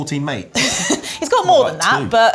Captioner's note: laughs